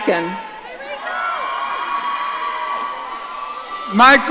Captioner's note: audience cheering